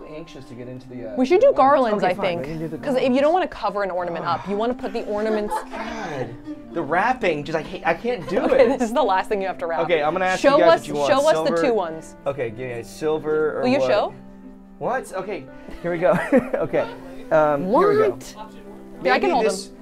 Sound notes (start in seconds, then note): 5.7 sighs exasperatedly; 7.0 laughs; 16.1 laughing